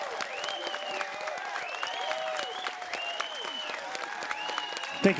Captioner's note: crowd applause